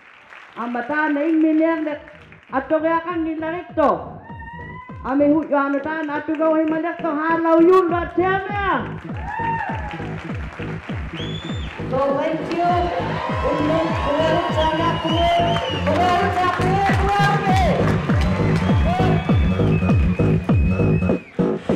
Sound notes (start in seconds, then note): 0.0 applause; 4.1 speaking alternate language; 17.5 applause; 21.6 techno